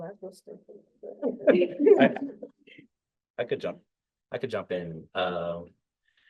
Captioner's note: laughter